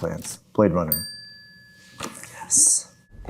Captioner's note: bell dings